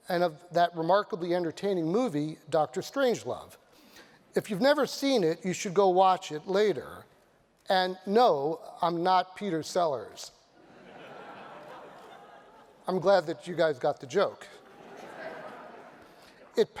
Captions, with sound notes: and of that remarkably entertaining movie, Dr. Strangelove. If you've never seen it, you should go watch it later. And no, I'm not Peter Sellers. [LAUGHTER] I'm glad that you guys got the joke.